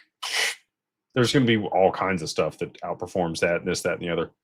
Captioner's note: snorts